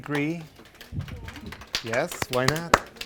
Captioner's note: clapping